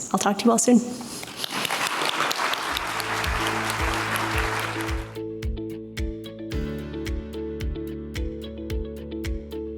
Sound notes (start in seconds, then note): 1.3 audience applauds; 4.6 upbeat music